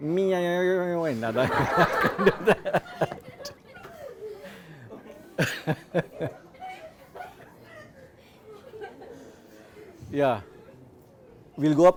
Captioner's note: students laugh